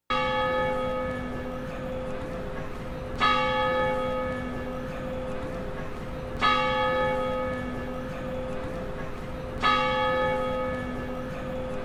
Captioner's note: bell chiming